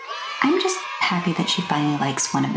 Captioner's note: children's yay sfx